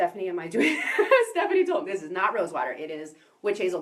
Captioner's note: giggle